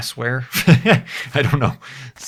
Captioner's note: laughs